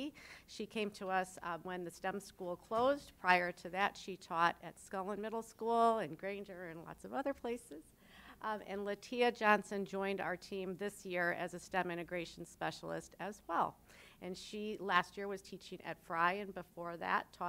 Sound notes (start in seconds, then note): none